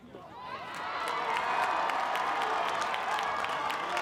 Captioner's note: crowd cheers